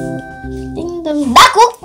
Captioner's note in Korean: 벨소리